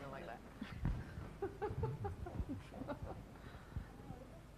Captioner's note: laughing